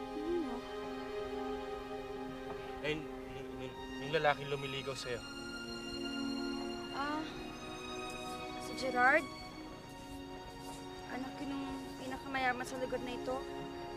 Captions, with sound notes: Who? [stammers] That man who is courting you. Oh, Gerard? He’s the son of the richest person in this place.